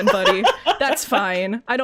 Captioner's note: laughs